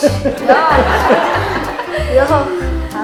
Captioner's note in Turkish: kahkaha sesi